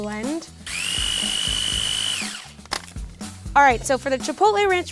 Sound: blades whirring

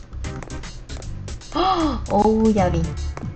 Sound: gasps

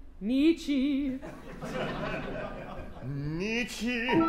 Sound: laughter

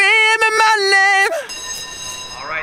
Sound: ring

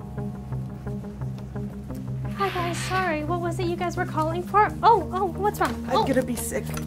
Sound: sighs

